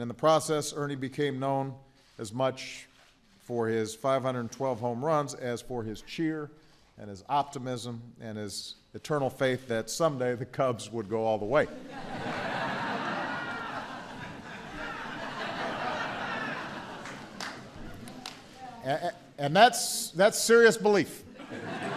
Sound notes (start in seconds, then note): 17.5 laughter; 21.3 laughter